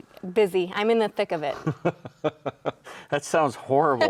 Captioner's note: laughs